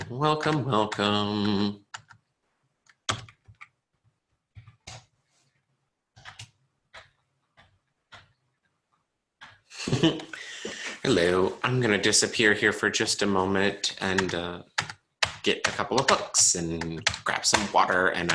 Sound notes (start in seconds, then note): 9.7 chuckles